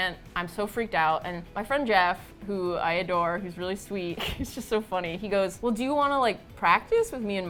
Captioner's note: laughs